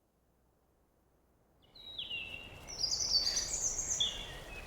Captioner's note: birds sing